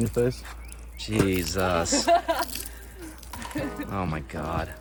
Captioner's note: crew member laughs